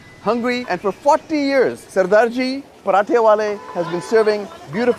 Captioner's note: speaking in foreign language